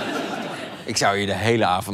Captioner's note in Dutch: gelach